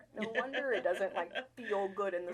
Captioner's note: laughing